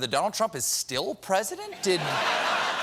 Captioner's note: laughter